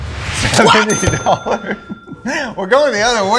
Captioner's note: chuckles